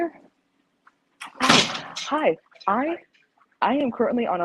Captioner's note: door slams